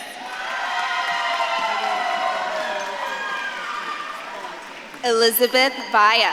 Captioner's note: audience claps and cheers